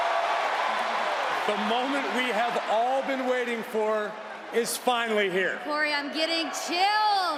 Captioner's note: cheers and applause